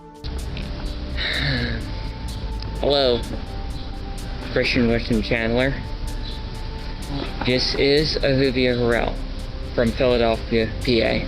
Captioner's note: sigh